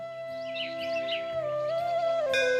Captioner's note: temple bells